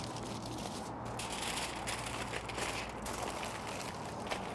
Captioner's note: foil crinkling